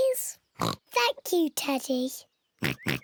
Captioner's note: in normal voice; oinking